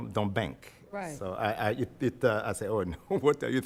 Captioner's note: stammers